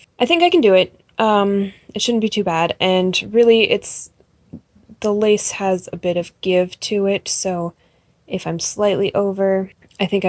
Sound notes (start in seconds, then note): none